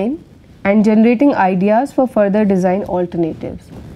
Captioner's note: feedback